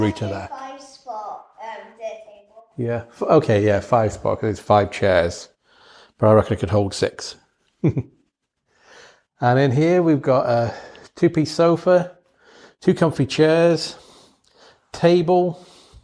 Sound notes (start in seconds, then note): 7.8 chuckling